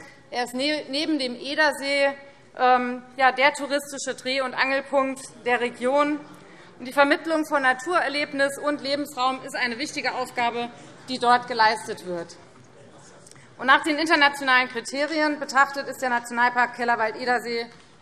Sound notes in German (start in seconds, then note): none